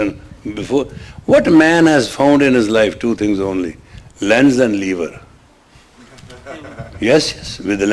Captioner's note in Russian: смех